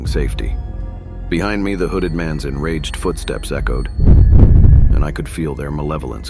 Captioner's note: footsteps